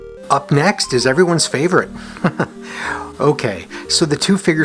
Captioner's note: chuckles